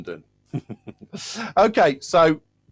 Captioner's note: laughs